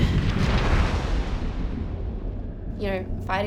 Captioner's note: wind blowing